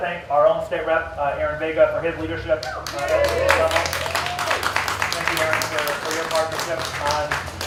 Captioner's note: applause